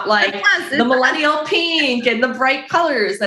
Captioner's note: laughing